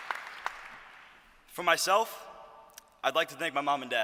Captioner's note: applause